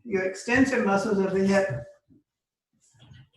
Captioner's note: speaking faintly